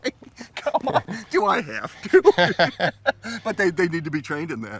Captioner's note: laughs